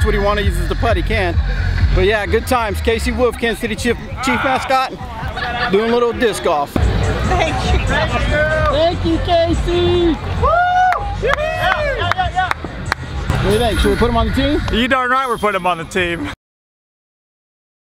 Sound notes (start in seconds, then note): 9.9 cheering